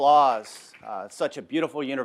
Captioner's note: audience clapping